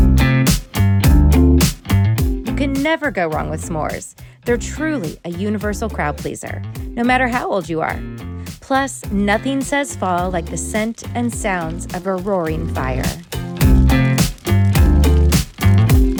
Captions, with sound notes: You can never go wrong with s'mores. They're truly a universal crowd pleaser, no matter how old you are. Plus, nothing says fall like the scent and sounds of a roaring fire. (fire crackling)